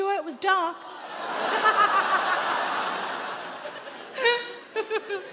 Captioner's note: audience laughing